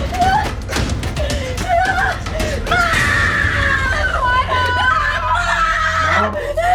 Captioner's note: screaming